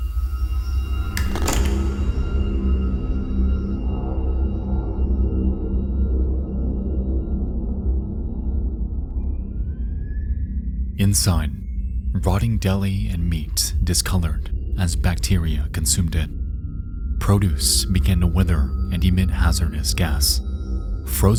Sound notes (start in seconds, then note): 1.1 ominous music; 1.1 switch clicks